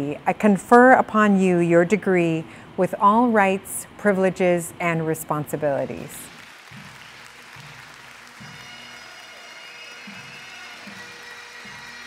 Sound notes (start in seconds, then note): 6.2 audience cheers and applauds; 8.6 jubilant bagpipe music